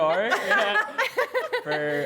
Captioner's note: laughter